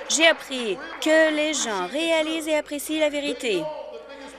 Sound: applause

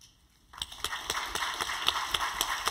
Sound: applause

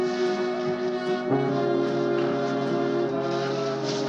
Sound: ship Horn Blaring

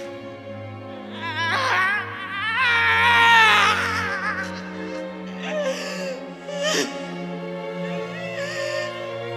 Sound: sobbing

